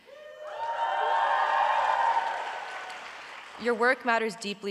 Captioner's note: audience applauding